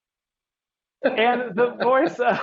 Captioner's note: laughing